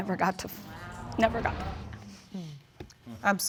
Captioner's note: audience sigh collectively